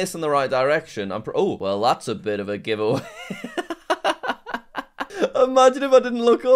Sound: laughs

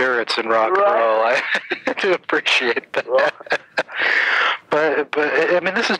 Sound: laughing

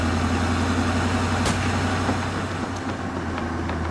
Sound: tire pops

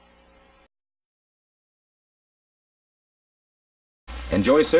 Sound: silence

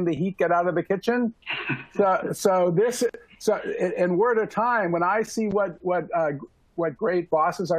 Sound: laughter

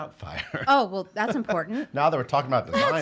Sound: laughing

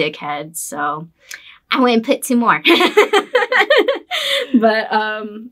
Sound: laughs

